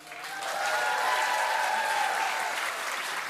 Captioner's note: cheers and applause